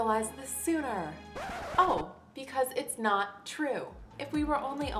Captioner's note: record scratch